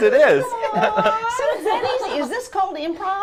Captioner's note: laughs